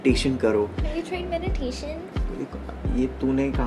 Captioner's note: in squeaky voice